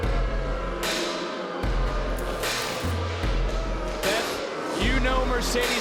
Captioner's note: crowd continues jeering